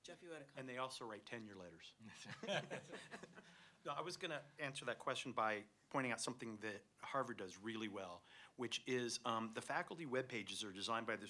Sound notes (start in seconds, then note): 2.1 laughter